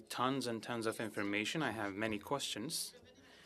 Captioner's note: speaking french